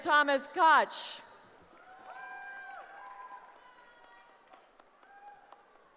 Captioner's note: cheering